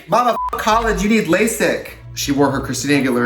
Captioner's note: beep